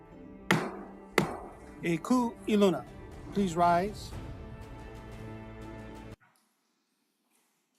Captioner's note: gavel bangs twice